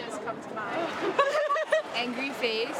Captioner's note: laughing